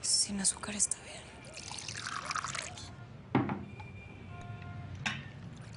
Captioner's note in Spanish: Sonido al servirlo